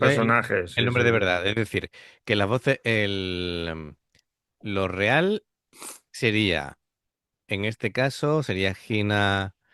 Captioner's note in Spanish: resoplido